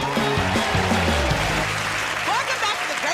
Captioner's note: cheers and applause